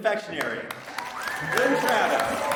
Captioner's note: audience clapping; audience cheering